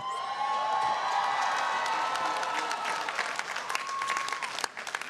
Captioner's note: audience cheering